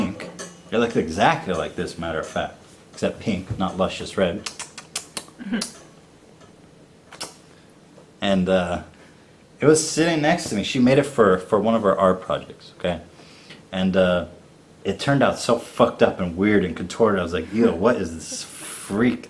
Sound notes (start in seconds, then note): 4.4 kissing noises; 7.1 kiss noise